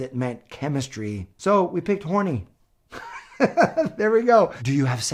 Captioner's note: laughs